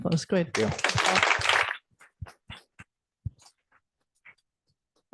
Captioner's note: applause